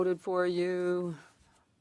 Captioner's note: speaking French